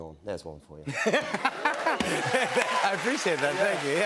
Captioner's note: laughter